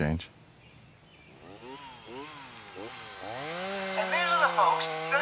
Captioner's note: chainsaw buzzing